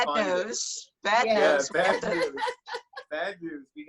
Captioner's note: laughs